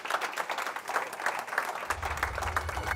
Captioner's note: applause